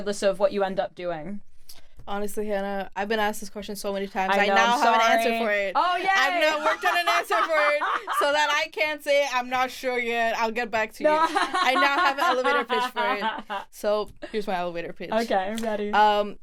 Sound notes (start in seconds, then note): 9.1 laughs; 11.1 laughs